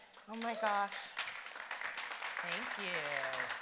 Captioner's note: audience applauding